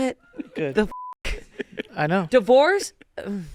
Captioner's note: beep